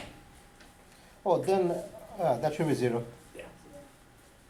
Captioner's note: voiceover